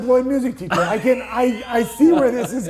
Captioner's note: laughing